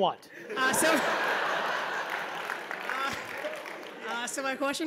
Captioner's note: laugh